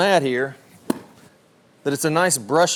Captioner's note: club swishes